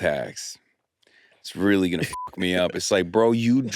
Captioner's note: beep